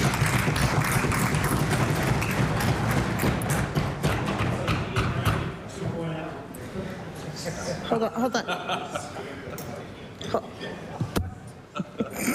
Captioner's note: applause